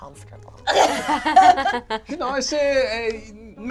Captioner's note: all laugh